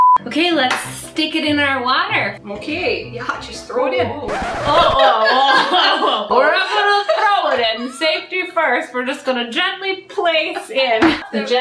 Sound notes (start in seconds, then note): 4.2 record needle scratching